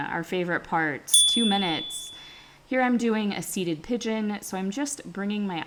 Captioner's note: chime